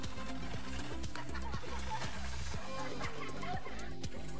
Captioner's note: laughing; techno music